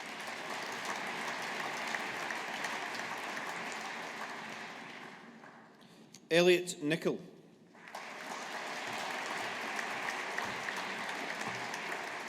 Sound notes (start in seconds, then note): 0.0 audience applauding; 7.7 audience applauding